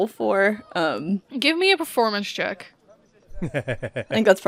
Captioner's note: laughs